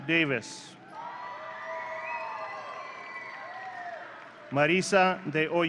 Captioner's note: audience cheering